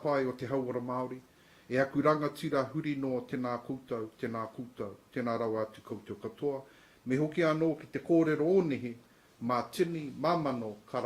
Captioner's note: speaks te reo maori